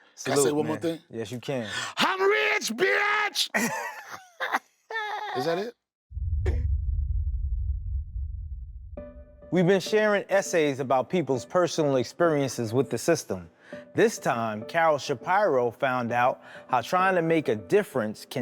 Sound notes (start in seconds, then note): 3.4 laughs